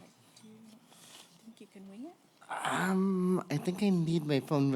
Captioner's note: chatter - as notes were not at podium